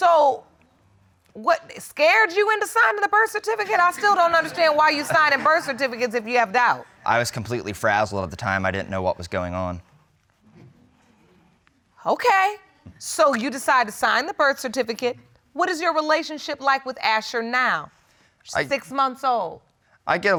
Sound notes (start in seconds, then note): 3.5 audience laughing